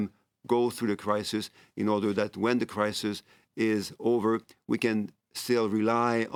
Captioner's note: speaking French